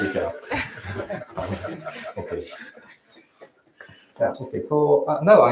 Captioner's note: laughter